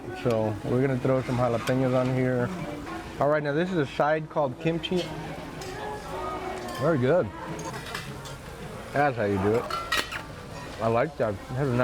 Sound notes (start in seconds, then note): 7.5 cutlery clanking